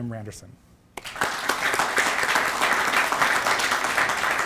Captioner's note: applause